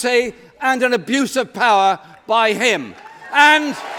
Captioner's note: applause